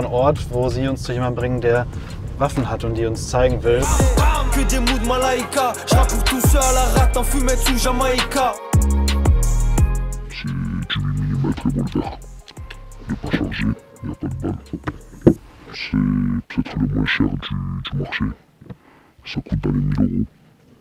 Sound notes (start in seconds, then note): 3.8 hip-hop music in French; 10.3 distorted, French